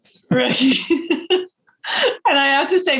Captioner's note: both laughing